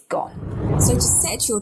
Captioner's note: air whooshing